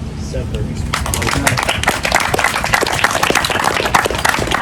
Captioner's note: audience applause